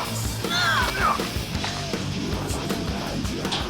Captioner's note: girl grunts